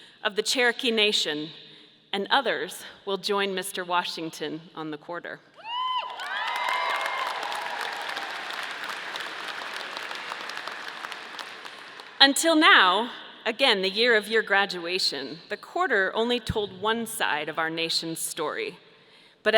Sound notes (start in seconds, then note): 5.7 audience cheering; 6.0 audience applauding